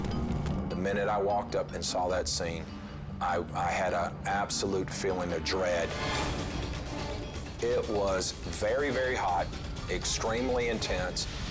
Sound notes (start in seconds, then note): 0.0 dramatic music; 5.8 scene swooshing